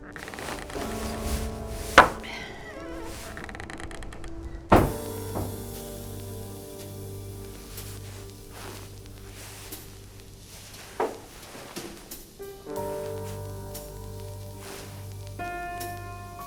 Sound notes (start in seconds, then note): 0.0 door opens; 2.2 glass thuds; 4.6 door closes; 6.5 soft music; 10.9 glass thuds; 14.0 soft music